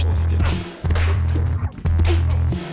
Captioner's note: sounds of a fight